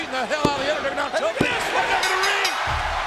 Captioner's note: pounding mat; ring bell dinging